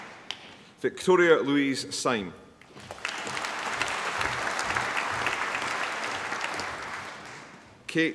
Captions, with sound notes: Victoria Louise Sime. (APPLAUSE)